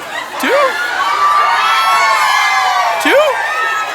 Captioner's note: participants cheering